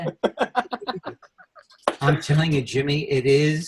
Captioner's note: laughs